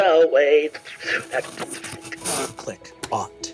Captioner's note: mimics electronics whirring